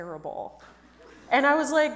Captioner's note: audience laughs